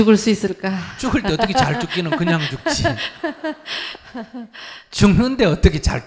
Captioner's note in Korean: 질문자 웃음